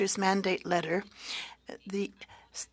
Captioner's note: speaking French